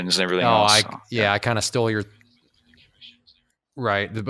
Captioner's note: muttering